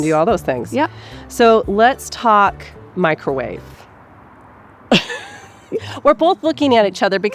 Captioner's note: laughs